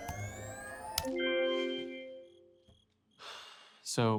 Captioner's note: keyboard clacking; sighs; cricket chirping